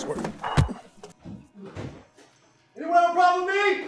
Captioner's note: fist thuds